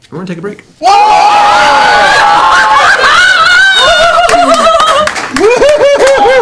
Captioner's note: yelling